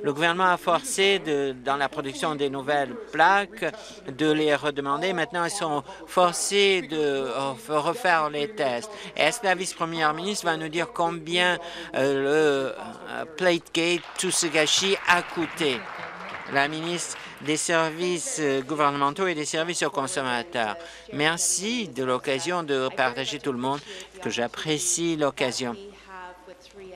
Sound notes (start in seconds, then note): 17.8 applause